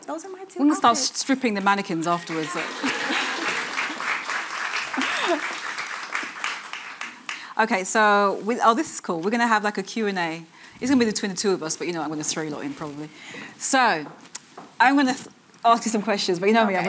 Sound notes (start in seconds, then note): 2.1 audience applauding; 2.4 laughing